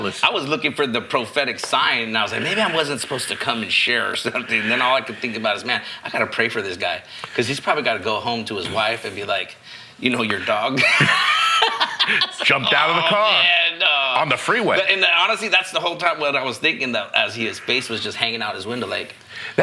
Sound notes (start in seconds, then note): 12.2 laughing